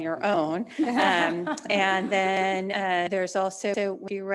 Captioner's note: trustees laughing